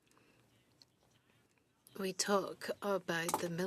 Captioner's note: speaking French